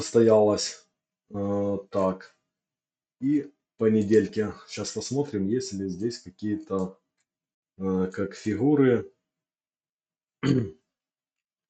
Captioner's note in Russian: откашливается